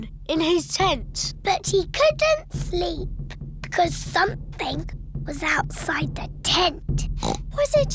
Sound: oinks

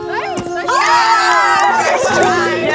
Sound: group cheering

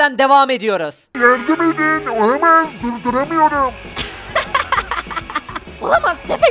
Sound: laughter

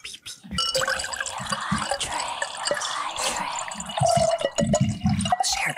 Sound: water pouring

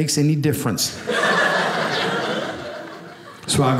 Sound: audience laughing

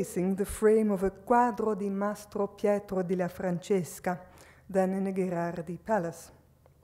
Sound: speaks foreign language

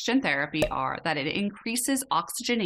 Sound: bubbles bursting

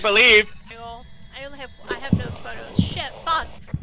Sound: radio static, ghost stomping

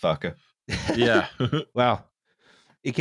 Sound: laughter

